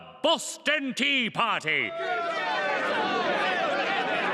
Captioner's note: crowd grumbles